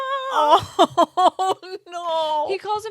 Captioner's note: both laughing